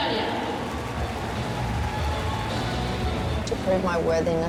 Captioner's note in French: applaudissements du public